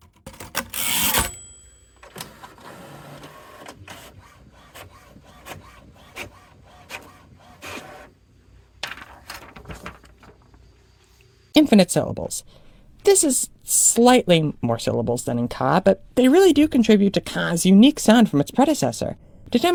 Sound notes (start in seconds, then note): 0.0 typewriter sounds; 0.4 typewriter bzzZZHR- ding; 2.0 printer printing